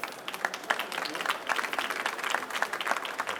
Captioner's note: applause